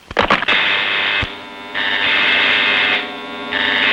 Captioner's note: alarms blaring